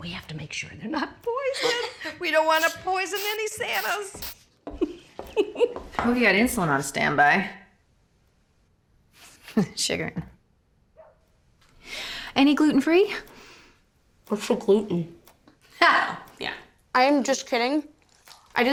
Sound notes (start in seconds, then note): 4.7 giggling